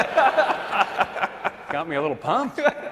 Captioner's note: laughter